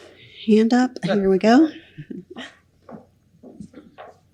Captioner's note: chuckles